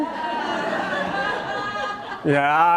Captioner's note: audience laughing